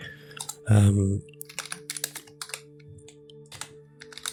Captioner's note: taps on keyboard